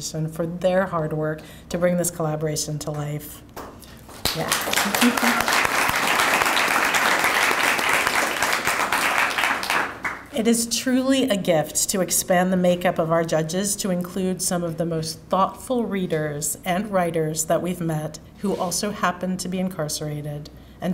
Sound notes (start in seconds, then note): 4.2 audience applauding